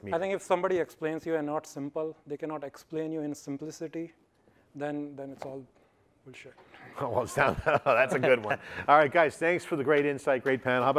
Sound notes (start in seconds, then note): 7.2 laughs